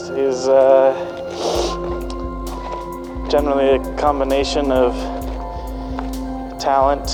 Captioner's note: sniffs